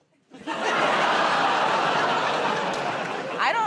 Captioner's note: laughter